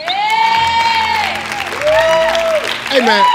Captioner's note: crowd applauds